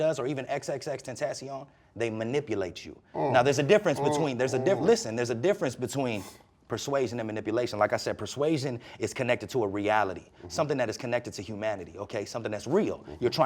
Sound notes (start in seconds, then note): 3.9 grunting